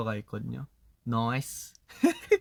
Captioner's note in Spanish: acento australiano